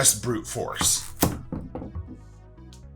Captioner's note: squash thumping; knife scrapes; upbeat jaunty music